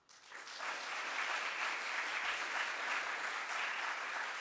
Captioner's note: audience applauds